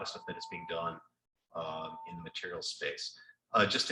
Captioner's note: none